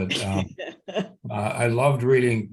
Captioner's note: laughs